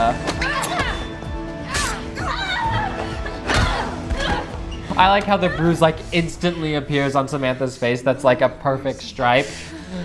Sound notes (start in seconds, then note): 0.2 metal swishing; 1.6 Samantha crying out in pain; 3.3 blow thudding